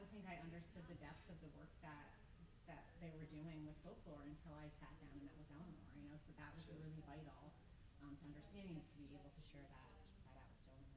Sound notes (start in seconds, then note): 5.6 mutters